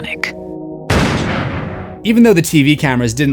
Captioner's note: gun blast